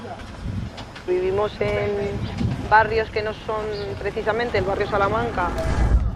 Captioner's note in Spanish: voz en off